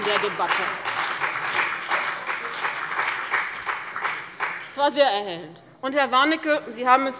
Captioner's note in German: Beifall bei dem BÜNDNIS 90/DIE GRÜNEN und der CDU